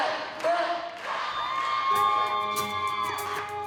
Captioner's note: cheering; mellow music playing; band strikes up